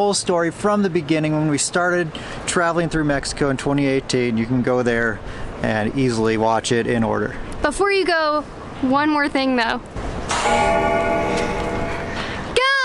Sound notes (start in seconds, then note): 10.3 bell ringing